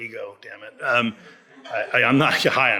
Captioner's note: audience laughs